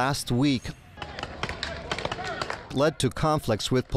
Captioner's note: protestors shouting